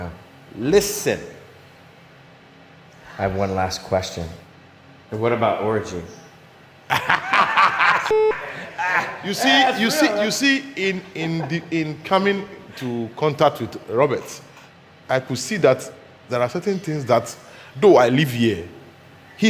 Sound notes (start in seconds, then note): 6.9 everybody laughing; 8.1 transmission beeps